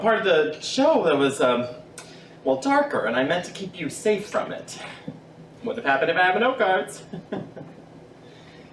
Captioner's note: laughs uncomfortably